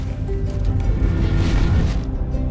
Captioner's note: gentle bright music; screen whooshing; gentle bright music continues